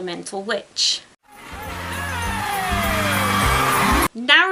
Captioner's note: cheering